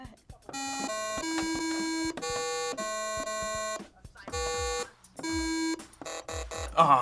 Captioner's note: tones chiming; buzzer